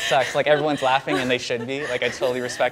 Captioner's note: laughing